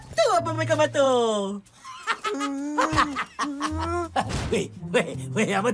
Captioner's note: MechaBot snickers